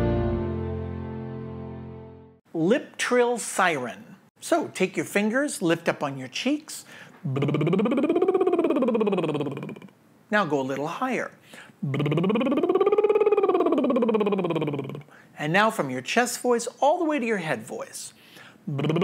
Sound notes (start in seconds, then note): 7.2 lips trilling; 11.6 lips trilling; 18.6 lips trilling